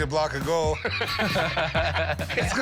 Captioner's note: laughter